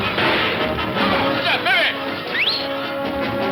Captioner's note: whistles; suspenseful orchestral music